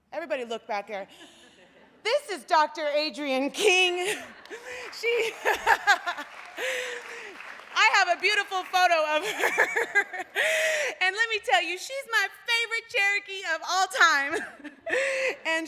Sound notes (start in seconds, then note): 4.4 applause